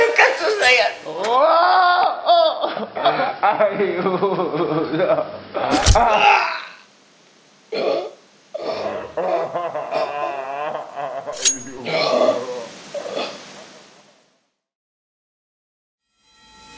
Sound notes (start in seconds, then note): 5.7 sound of a stab